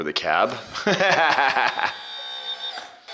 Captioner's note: laughs